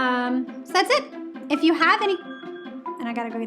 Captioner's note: alarm rings